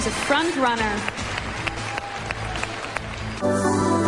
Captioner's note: crowd applauding